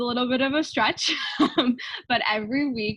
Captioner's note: laughing